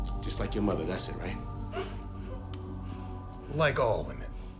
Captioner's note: Charlotte sobbing